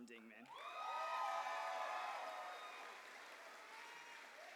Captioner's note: cheers and applause